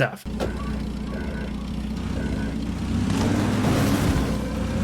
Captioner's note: engine revving